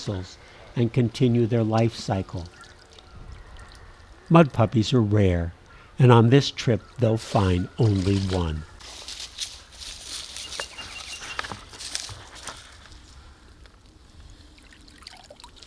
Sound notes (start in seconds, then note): 9.7 footsteps in leaves; 13.5 water dripping